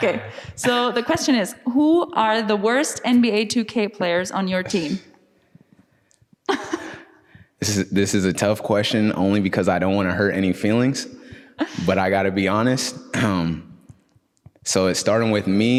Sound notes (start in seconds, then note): 6.5 lacht